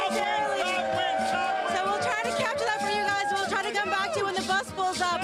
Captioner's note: applause